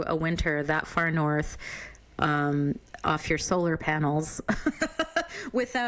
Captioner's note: laughs